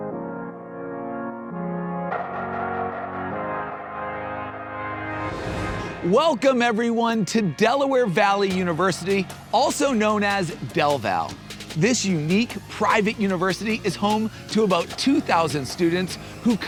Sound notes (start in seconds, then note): 0.0 inspiring music; 5.1 air swooshing